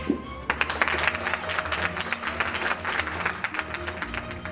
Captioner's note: audience claps